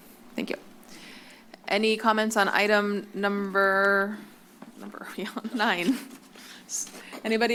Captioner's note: laughs